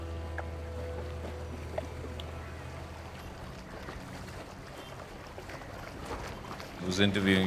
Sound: sound of water, croaking of ravens

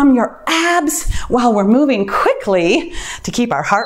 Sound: timer beeps

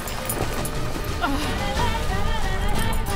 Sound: grunt

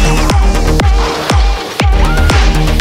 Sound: gunshots

